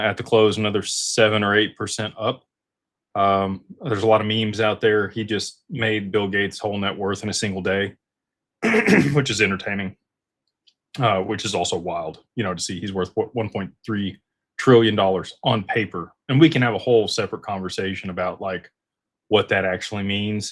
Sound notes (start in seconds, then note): 8.6 clears throat; 8.6 cough